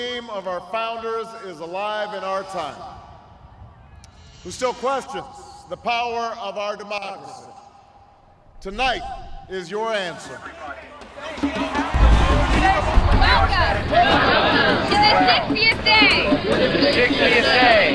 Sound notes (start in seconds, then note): 13.2 voiceover